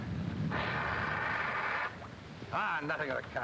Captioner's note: steam whooshes